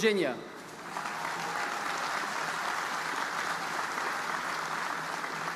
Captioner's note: audience applauding